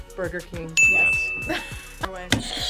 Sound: buzzer rings; React laughs

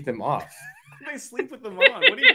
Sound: laughs

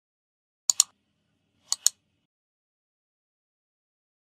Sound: clicking

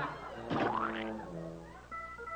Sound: laughter; deltarune splat sound

